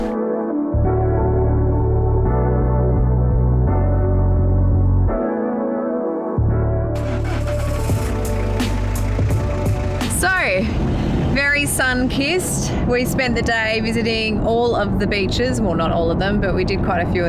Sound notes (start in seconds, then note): 0.1 mellow music; 7.1 car engine starts